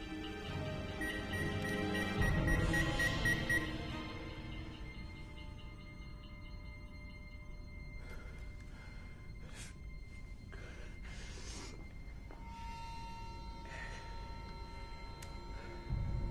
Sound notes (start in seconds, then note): 0.9 beeping; 7.8 slGHS